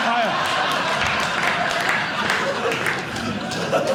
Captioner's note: applause